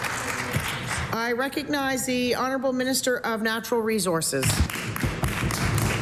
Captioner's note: applause